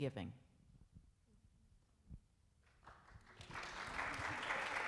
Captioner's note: applauding